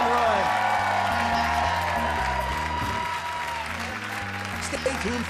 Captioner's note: audience applauds; upbeat music